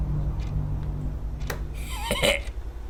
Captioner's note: lid snaps back into place